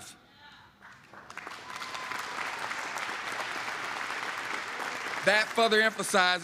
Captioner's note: applause